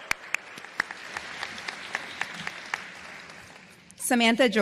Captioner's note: applause